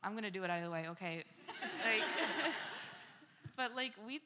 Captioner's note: laughter